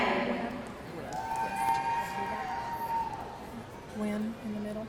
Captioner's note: audience cheering